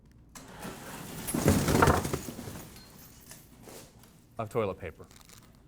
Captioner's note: toilet papers clattering